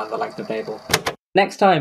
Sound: tape recorder clicks off

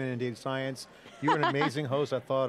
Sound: laughs

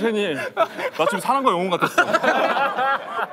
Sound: haha

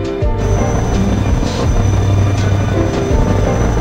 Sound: helicopter chuffing

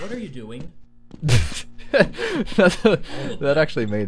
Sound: laughter

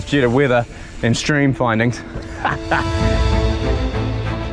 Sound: laughs; epic music plays

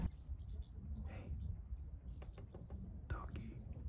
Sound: whispers

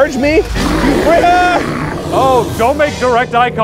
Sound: roaring

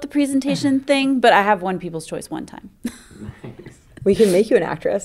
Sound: laughing

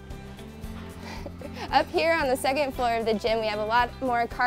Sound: gentle instrumental music; chuckles

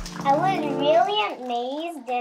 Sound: applause

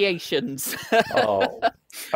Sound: laughs

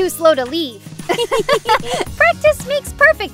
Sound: both girls laugh

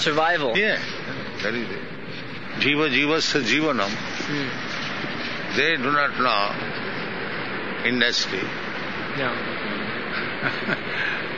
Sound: laughs

